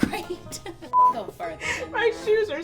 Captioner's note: beep